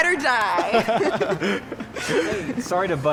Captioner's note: Barney and Sammie laughing